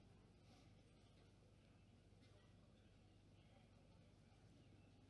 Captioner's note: none